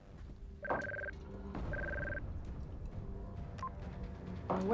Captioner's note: beep-beep; beep-beep